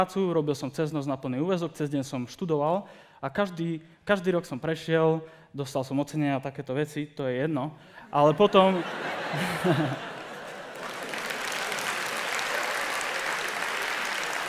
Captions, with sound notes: and begun working full-time at night while studying full-time during the day. I passed every single year, received some awards and things like that that does not matter but then... (Laughter) (Applause)